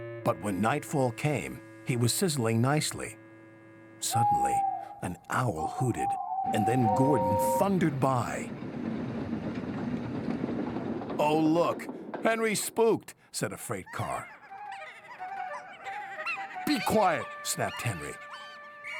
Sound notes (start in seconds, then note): 14.2 giggling